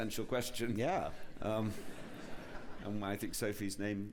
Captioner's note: laughter